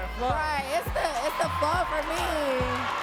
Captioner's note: audience cheering and clapping